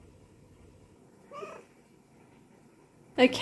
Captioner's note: meow